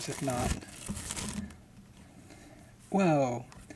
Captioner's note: plastic crinkling